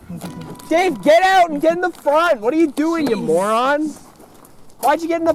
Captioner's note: shouting